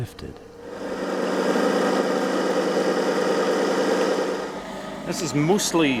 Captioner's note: machine whirring